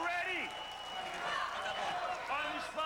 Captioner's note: cheers